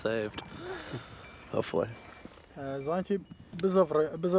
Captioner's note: speaking foreign language